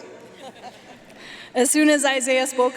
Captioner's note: audience laughing